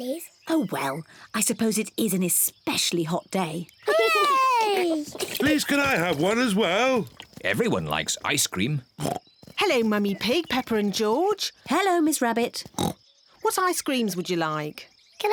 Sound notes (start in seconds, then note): 12.7 oinks